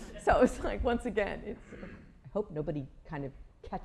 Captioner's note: laughter